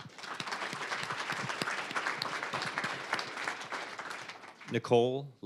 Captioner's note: applause